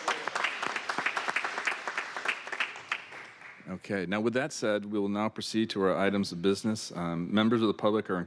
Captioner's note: applause